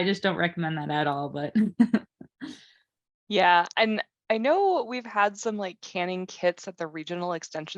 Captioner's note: laughs